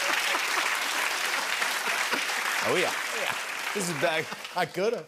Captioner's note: laughs; applause